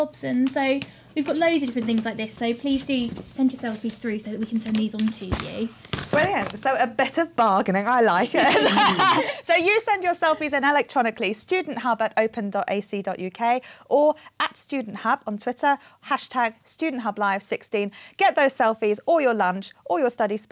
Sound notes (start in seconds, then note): 8.2 laughter